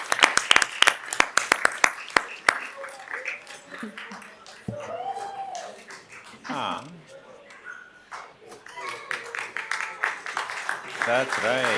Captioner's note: applause